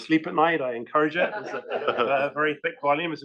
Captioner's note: laugh